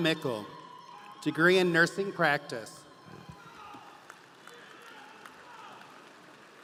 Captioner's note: audience applauding